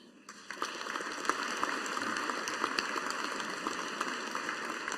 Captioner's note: audience applauding